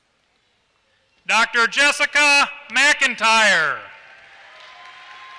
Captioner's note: applause